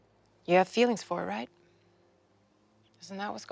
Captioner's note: none